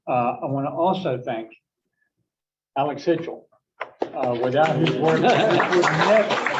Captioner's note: applause